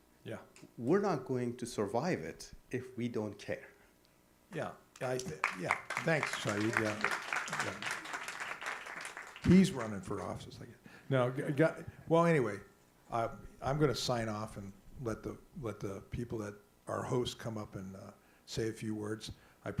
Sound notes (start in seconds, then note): 5.0 applause